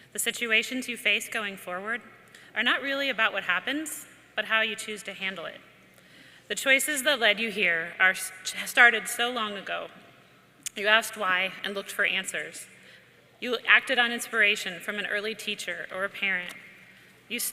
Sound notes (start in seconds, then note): none